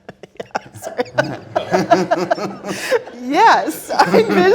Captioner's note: both laughing; laughs